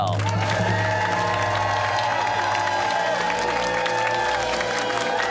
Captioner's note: cheers and applause